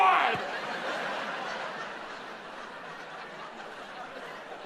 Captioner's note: audience laughs